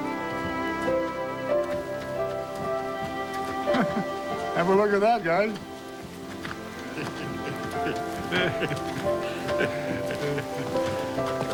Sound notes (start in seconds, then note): 3.7 chuckle; 6.8 chuckling